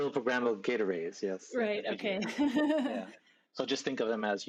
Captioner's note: giggles